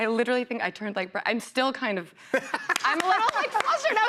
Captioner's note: laughter